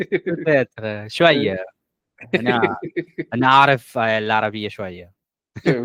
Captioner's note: speaking Arabic